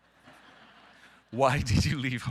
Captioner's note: audience laughing